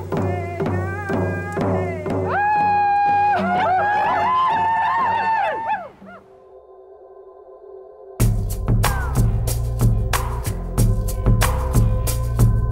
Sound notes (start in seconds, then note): 2.2 women howl